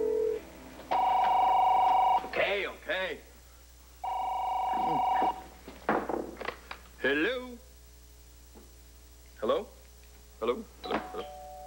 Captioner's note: telephone rings